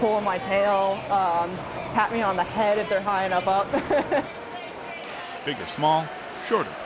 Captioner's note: laughing